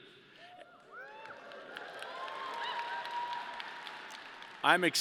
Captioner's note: audience cheering and applause